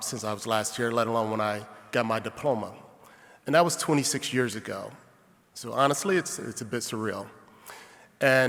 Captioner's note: none